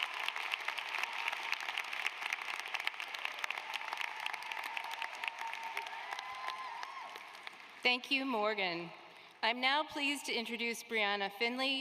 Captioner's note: applause